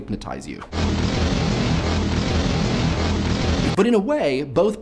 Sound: angry machine sound

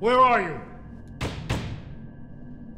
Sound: pounding

